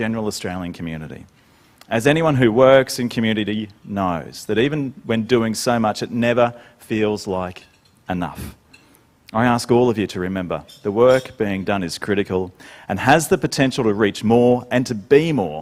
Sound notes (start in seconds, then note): none